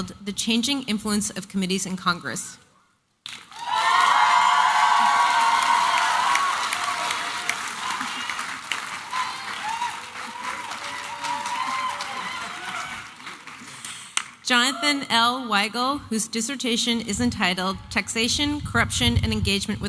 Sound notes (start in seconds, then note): 2.6 applause and cheering